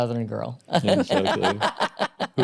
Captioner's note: laughter